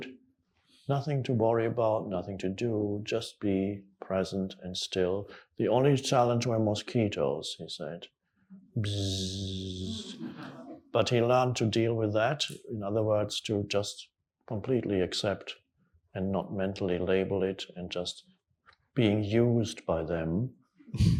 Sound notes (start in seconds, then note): 8.9 Eckhart Tolle makes buzzing sound